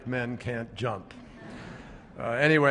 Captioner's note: laughter